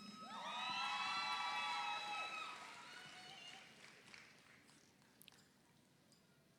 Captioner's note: audience cheers; audience applauds